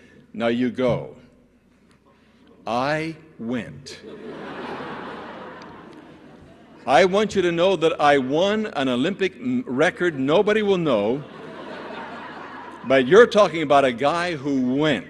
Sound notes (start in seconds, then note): 4.0 laughter; 11.2 laughter